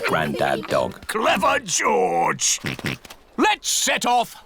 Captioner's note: snorts